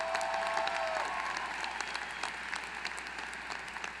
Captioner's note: applause